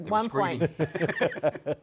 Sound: laughter

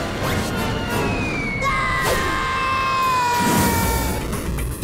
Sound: screaming

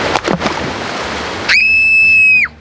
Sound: water splashes; screams

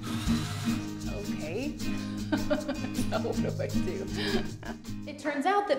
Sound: laughing

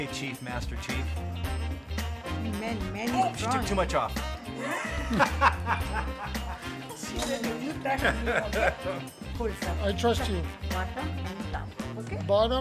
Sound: laughter off microphone

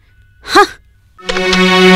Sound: scoffs

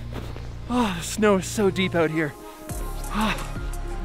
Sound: panting

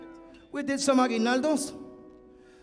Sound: speaking in Spanish

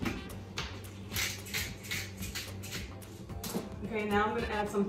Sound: pepper grinds

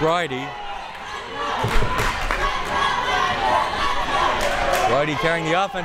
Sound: crowd members chanting

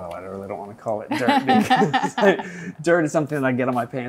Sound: laughing

